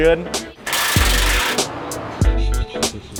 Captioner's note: metallic whirring; guitar music